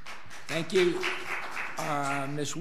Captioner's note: audience applauds